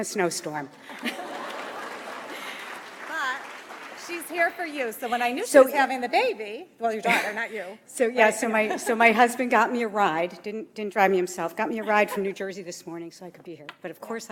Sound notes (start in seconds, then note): 0.9 audience applauds